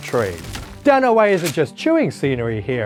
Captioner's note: page turning